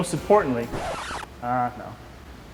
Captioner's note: sudden record scratching